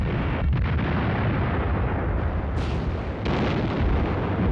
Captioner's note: bombs exploding